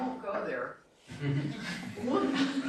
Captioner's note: laughter